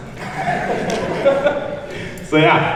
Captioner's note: laughing